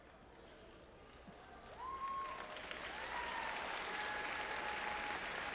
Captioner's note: audience applauding and cheering